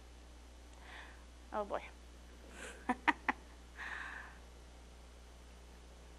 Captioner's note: laughing